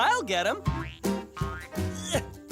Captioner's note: grunt of effort